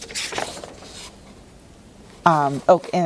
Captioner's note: paper rustling